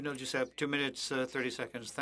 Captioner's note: speaking French